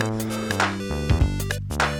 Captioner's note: upbeat playful music; heavily breathes